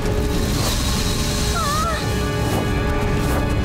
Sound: shrieking

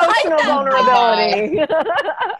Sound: laughter

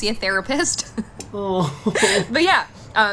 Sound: chuckles

